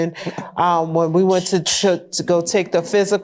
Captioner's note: chuckling